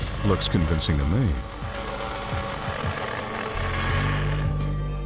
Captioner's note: saw buzzing